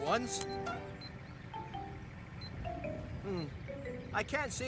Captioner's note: electronic Beeping